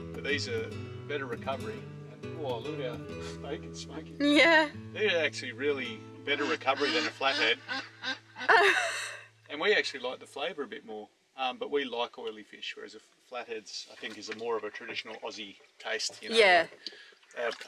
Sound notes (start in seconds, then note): 6.3 duck quacks; 8.4 laughs